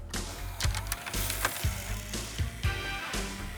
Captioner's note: mechanical hum